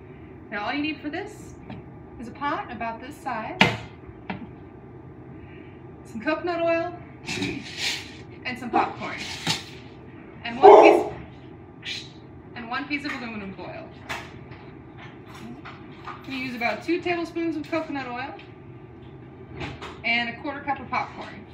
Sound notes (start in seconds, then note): 10.6 dog barks